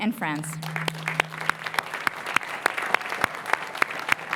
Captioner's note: applause